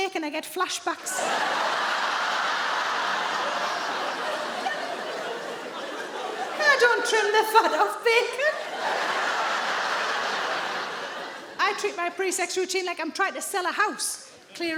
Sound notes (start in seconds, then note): 1.0 audience laughing